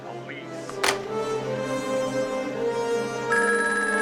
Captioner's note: phone receiver thuds; intense dramatic music; phone rings